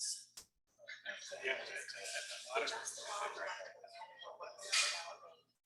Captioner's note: people chattering indistinctly